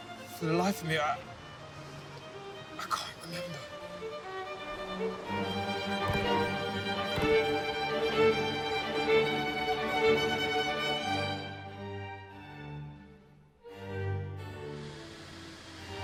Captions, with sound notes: - For the life of me, I, I can't remember. (dramatic orchestral music) (fingers tap)